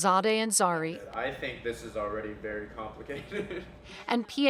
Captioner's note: chuckles